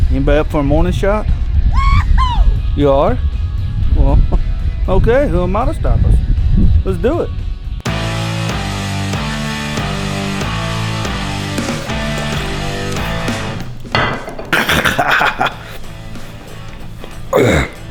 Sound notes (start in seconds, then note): 1.7 woman cheering; 7.8 upbeat music; 14.5 laughs